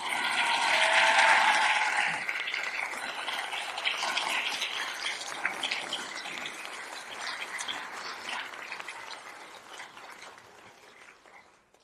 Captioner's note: applause